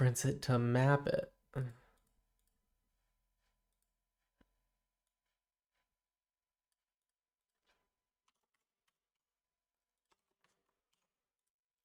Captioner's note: silence